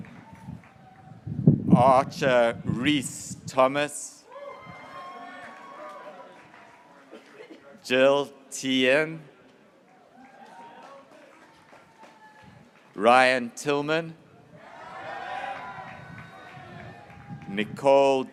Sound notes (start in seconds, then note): 0.0 graduates cheering; 4.2 graduates cheering; 9.8 graduates cheering